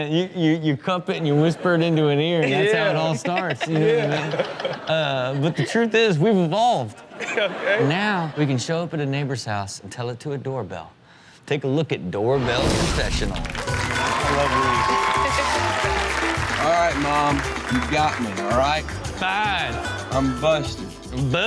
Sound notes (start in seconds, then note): 13.0 audience cheers